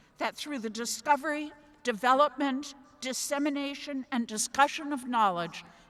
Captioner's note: none